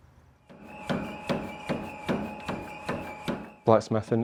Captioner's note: tools banging